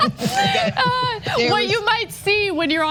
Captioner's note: laugh